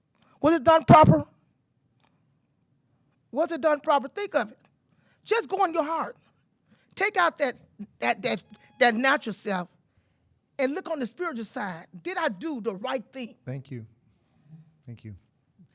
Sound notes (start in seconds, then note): 9.3 timer buzzing